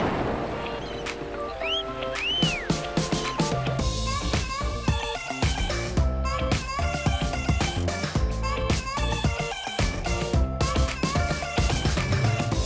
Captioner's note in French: sifflements